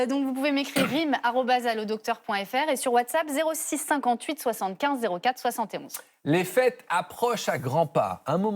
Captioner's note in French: raclement de gorge